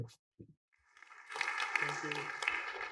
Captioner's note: applause